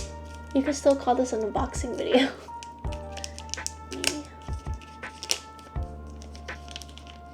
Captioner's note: giggles